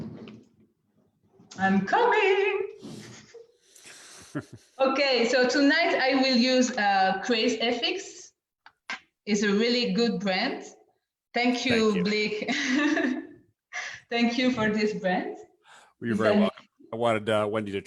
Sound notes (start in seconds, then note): 10.8 laughs